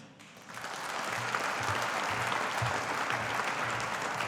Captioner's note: audience applauding